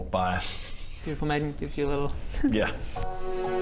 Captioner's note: teehee; charming and sweet music